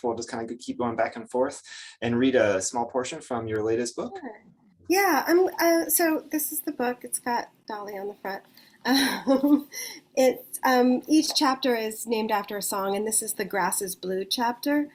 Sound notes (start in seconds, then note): 8.9 chuckles